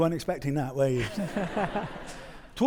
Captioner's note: audience laughing